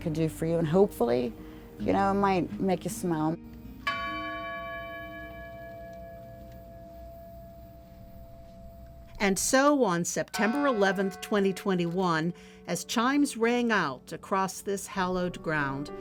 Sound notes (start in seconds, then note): 3.8 bell chimes